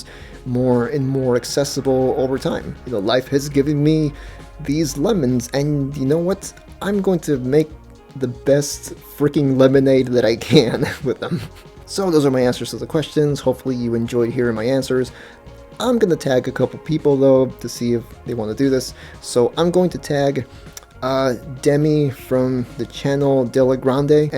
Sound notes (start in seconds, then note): 10.5 laughs